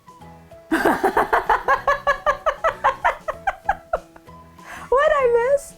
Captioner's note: laughing